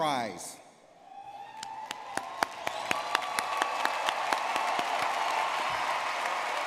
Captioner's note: audience clapping and cheering